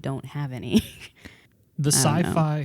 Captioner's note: laughs